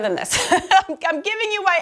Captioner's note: laughs